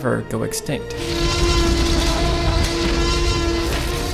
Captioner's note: roar